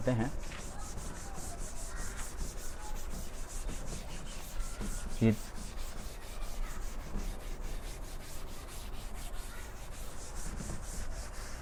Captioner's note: rubbing Sound